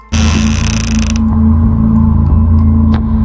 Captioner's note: door open